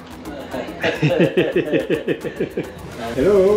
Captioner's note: laughs